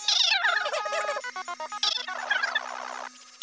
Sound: telephone beeps

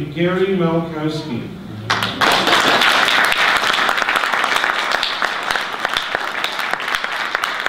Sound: audience applause

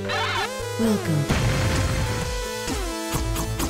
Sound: computer Voice

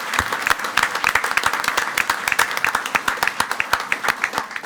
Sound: everyone applauding

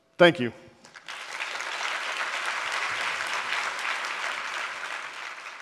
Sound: applause

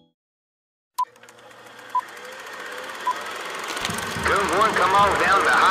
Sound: boop boop boop

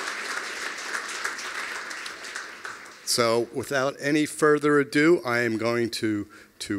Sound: applause

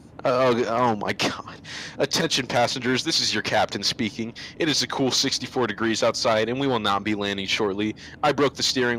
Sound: exhale

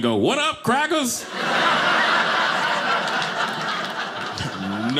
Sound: audience laughing

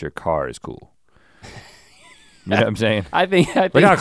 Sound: Link chuckles

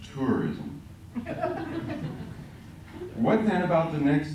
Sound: laughter

